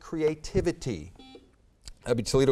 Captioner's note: buzzer beeps